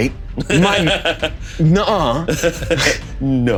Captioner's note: laughing